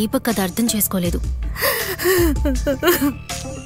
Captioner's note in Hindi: रोना